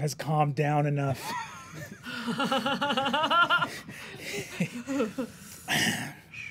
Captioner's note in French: rires